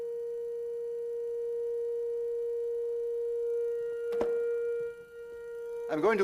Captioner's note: high tone gets louder